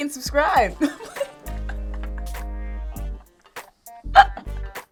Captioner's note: laughs